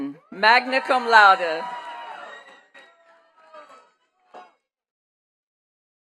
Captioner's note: attendees cheering and clapping